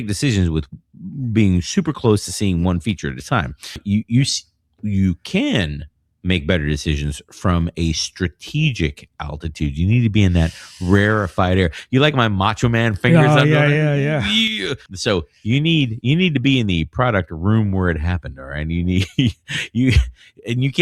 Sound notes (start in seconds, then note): 3.8 uh; 10.3 uh